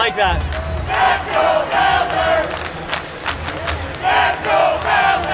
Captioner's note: crowd repeatedly chanting